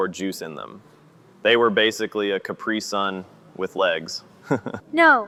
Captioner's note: laughs